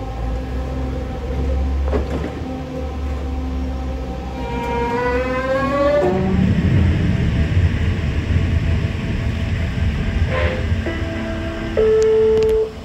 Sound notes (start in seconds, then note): 4.5 train departing noises; 9.5 brake noise; 10.8 announcement Chime